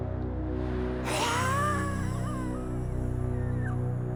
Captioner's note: man hissing